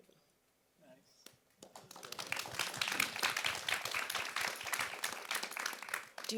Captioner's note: audience applauds